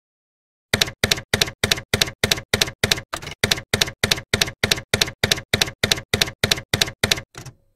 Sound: typewriter keys clacking

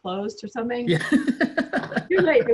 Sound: laughs

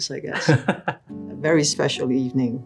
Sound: staff laughing

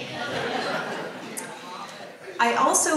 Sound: audience laughs

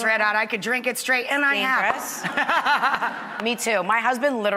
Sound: laughter

